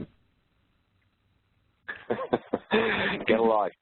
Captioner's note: chuckles